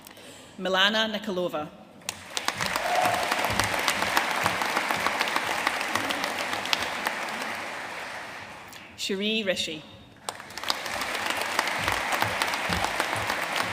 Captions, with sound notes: Milena Nikolova. (AUDIENCE CHEERING AND APPLAUDING) Cheree Rishi. (AUDIENCE APPLAUDING)